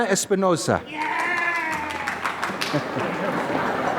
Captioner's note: applause